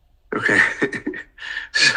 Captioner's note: laughs